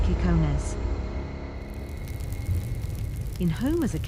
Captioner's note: fire rages